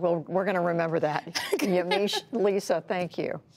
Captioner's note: laughter